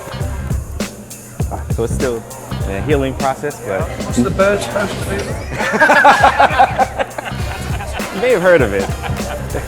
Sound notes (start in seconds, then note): 0.1 upbeat music; 5.6 laughs